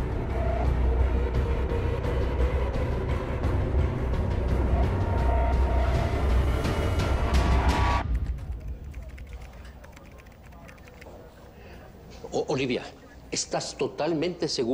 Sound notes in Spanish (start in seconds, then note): 9.8 Ruido al teclear